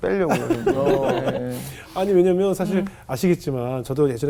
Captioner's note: laughing